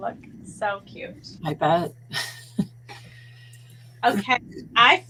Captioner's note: laughing